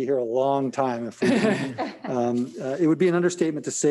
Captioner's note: members laughing